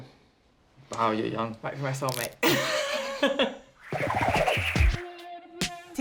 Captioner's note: laughs